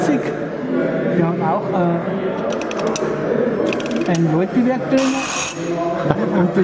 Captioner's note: dingling